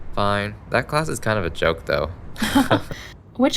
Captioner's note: both laugh